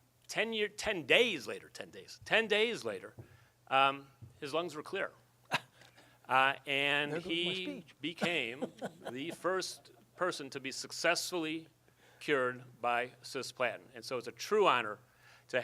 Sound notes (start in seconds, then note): 8.0 laughs